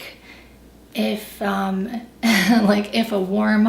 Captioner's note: laughs